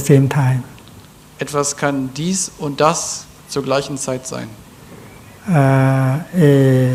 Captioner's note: German